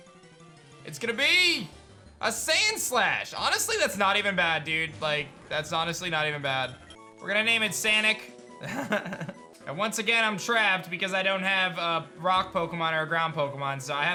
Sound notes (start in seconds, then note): 8.6 laughs